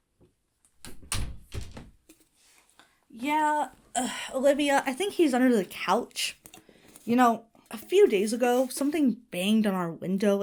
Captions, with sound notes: (door clicks shut) Yeah, Olivia. I think he's under the couch. You know, a few days ago something banged on our window,